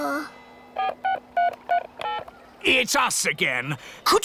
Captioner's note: dialing